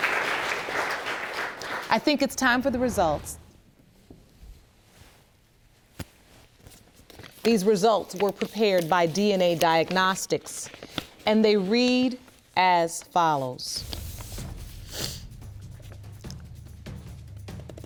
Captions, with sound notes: I think it's time for the results. These results were prepared by DNA Diagnostics, and they read as follows. (SNIFFLES)